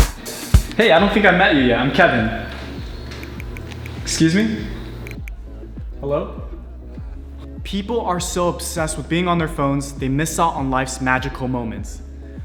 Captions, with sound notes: Hey, I don't think I met you yet. I'm Kevin. (phone typing clicking) Excuse me. Hello? People are so obsessed with being on their phones they miss out on life's magical moments.